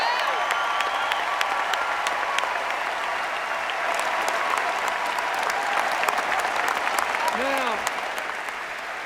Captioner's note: cheers, applause